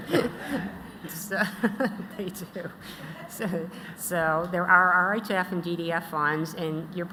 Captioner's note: laughter